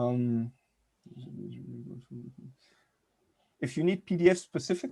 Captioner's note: faintly speaking